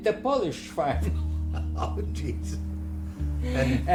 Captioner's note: laughing